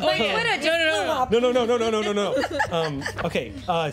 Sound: laughing

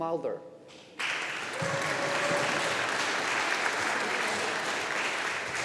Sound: audience applauding

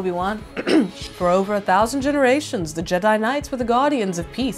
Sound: obi wan voice

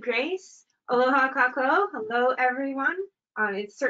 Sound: speaking in a foreign language

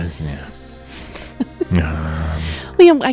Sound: laughs

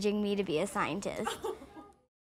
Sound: laughing

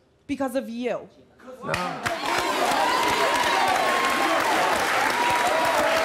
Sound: audience applauding and cheering

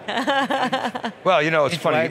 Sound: laughing

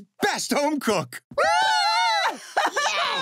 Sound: cheering, laughing

